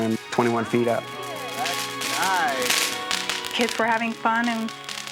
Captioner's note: fireworks crackling